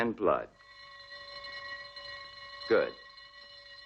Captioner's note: bell ringing